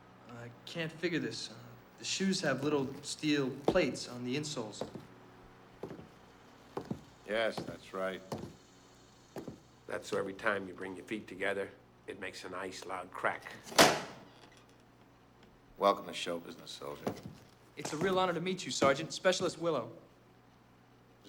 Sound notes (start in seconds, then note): 13.8 clicks heels